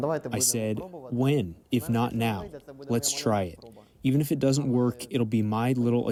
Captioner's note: through translator